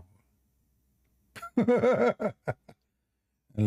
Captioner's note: Ketawa